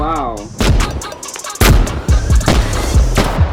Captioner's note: gunshots